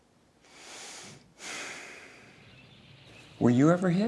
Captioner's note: sighs heavily